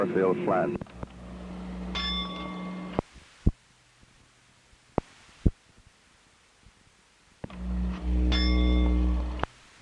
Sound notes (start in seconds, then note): 1.9 bell sound; 8.3 bell Sound